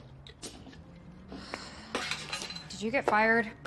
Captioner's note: exhales